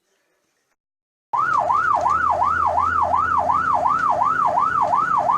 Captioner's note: sirens